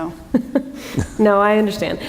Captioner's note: chuckle